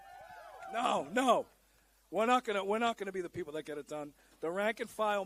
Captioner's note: applause